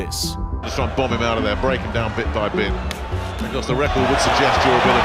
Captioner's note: crowd cheering